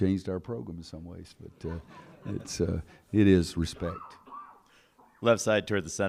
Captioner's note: laughter